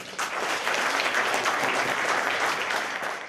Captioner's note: applause